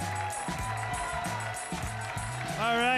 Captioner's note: audience cheering